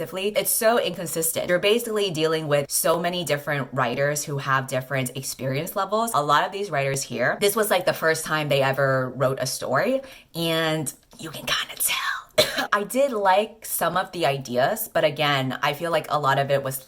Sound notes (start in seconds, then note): 12.3 𝘤𝘰𝘶𝘨𝘩𝘴